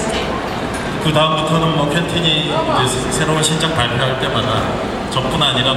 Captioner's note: speaking Korean